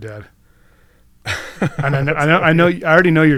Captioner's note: chuckles